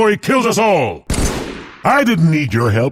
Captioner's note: battle rifle shot